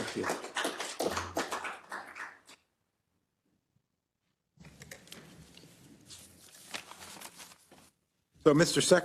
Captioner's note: applause